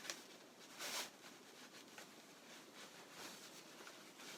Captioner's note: fabric rustling